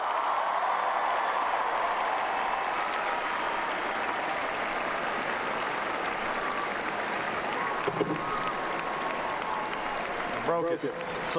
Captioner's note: cheering and Applause